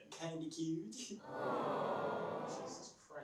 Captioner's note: awwww Sound